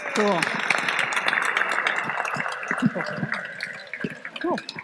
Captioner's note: applause